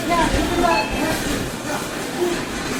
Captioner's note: checkout beeping